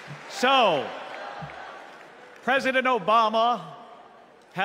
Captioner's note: crowd chanting